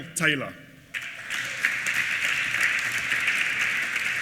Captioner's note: applause